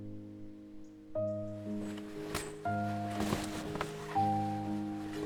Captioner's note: sounds of car being covered